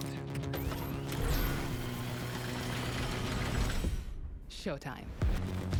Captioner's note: vehicle whirring and accelerating